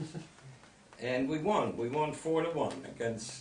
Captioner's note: chuckles